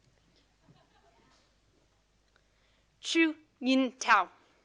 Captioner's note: audience laughing